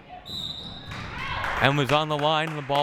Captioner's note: whistle